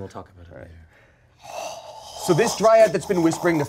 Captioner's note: groans